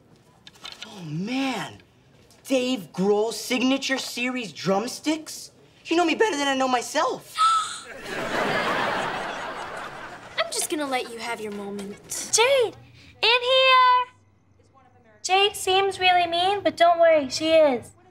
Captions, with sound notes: Oh, man! Dave Grohl signature series drumsticks? You know me better than I know myself! [gasping] [laughing] I'm just gonna let you have your moment. Jade, in here! Jade seems really mean but don't worry, she is.